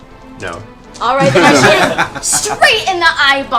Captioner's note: laughter